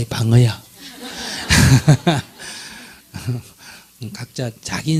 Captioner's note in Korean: 청중 웃음